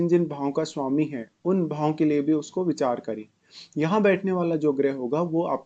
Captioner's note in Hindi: नाक से की जाने वाली आवाज़